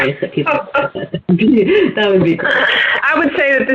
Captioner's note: laughter